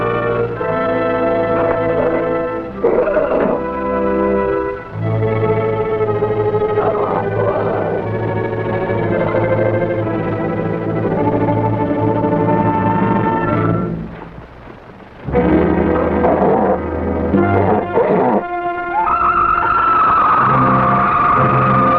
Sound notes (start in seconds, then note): 5.2 suspenseful music; 13.7 suspenseful music continues; 17.3 serpent growls; 18.9 serpent shrieks